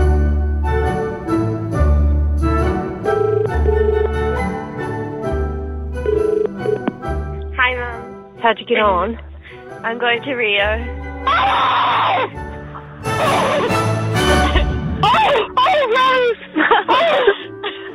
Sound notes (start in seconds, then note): 3.1 phone rings; 11.2 inaudible screams